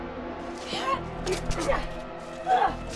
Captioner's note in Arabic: همهمات امرأة